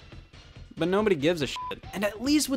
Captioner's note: beep